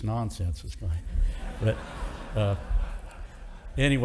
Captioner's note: audience laughing